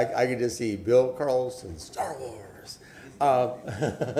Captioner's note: laughter